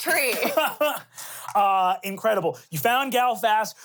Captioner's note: laughs